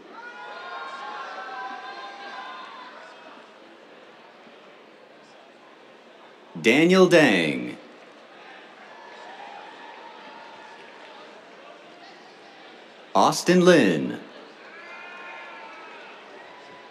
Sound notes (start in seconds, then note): 0.0 cheers; 8.9 cheers, applause; 14.6 cheers